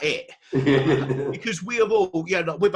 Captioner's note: laughs